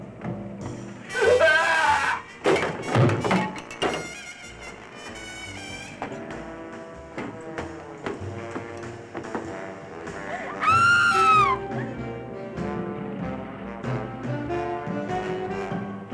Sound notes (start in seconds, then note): 1.1 sobbing; 10.3 screaming; 12.5 slow bluesy jazz music